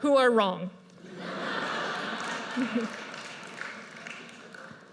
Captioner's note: audience laughs